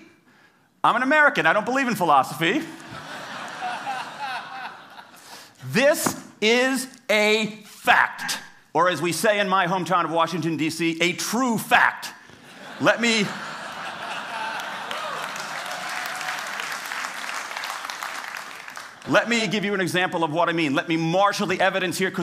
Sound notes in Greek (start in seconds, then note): 2.8 Γέλια; 12.4 Γέλια; 14.2 Χειροκροτήματα